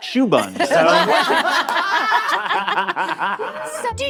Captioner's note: all laughing